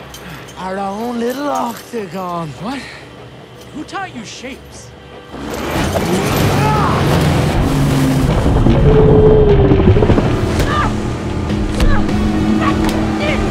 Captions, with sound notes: Our own little octagon. - What? Who taught you shapes? (engine revving) (Dalton screams) (Ellie screams) - That's it!